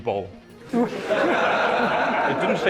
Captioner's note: laughter